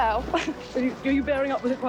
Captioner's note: Lady Diana chuckles